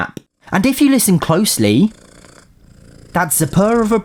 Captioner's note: purring